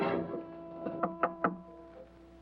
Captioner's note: knocking on door